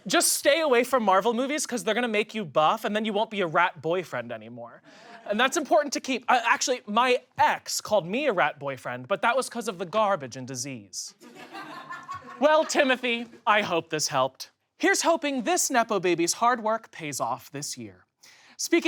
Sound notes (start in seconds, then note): 11.2 audience laughs